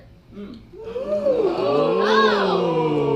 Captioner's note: audience oohs